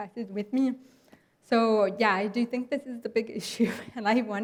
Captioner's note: chuckles